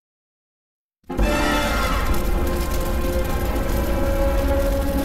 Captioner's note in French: flammes brûlantes